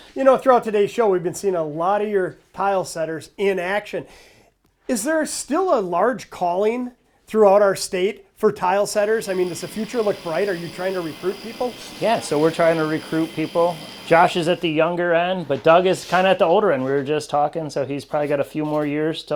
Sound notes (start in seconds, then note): 9.0 sander whirring